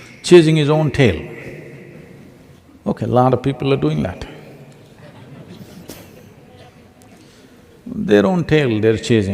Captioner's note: laughter